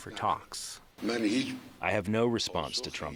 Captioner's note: through translator